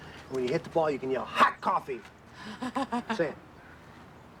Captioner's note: laughing